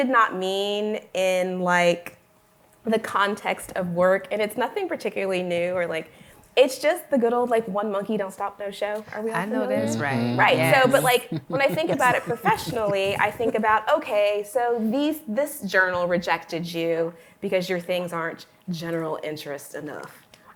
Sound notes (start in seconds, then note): 10.7 laughter